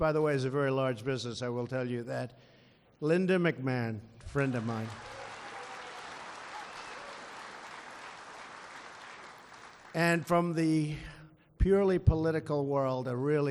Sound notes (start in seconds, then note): 4.3 applause